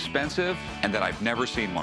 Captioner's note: none